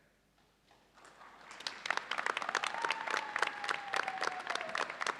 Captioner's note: audience applauds